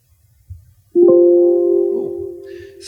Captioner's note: notification beep